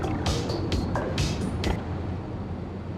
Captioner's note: tires screech